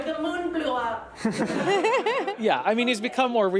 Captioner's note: everyone laughs